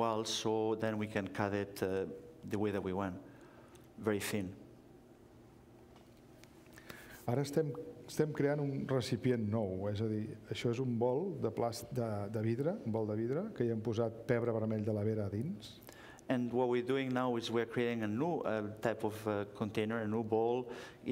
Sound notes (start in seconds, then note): 10.4 speaking catalan